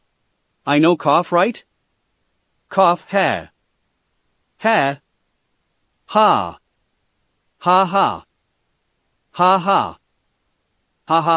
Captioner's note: cough